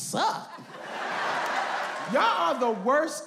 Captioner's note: audience laughs